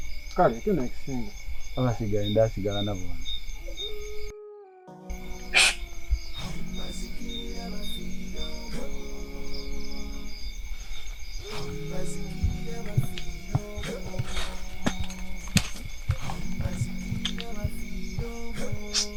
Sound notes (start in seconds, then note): 5.1 whistles quietly